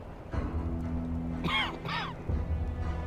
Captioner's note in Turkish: Öksürük sesi